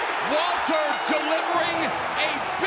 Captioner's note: crowd cheering; bell ringing